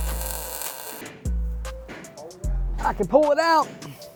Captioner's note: drill whirring